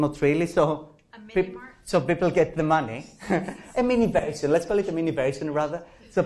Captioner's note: professor speaking